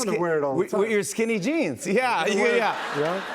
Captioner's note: laughter